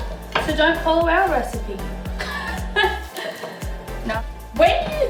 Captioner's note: laughter